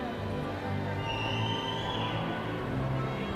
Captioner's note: cheering